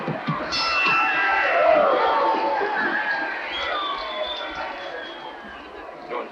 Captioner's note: bell rings